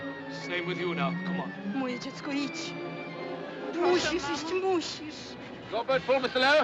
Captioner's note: Falando polonês